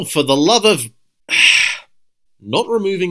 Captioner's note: sigh